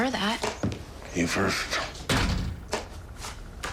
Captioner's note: door slamming